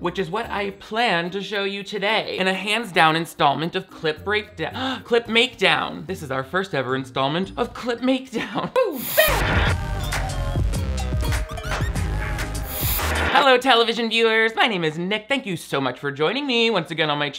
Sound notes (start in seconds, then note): 4.8 gasps; 8.7 woman vocalizes; 8.8 upbeat music; 12.0 static crackles